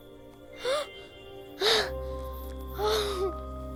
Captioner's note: gasps